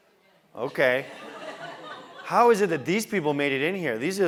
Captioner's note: laugh